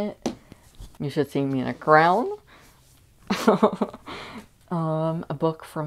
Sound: laughing

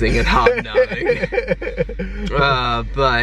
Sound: chuckling

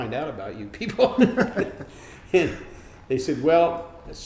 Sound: laughing

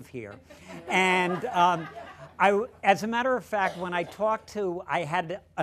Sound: laughter

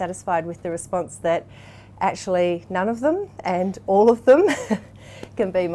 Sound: laughs

